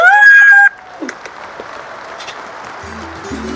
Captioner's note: applause